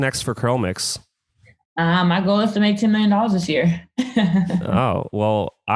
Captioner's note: laughs